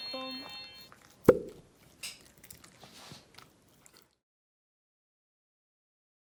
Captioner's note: smacking lips